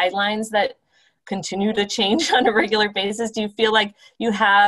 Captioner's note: laughter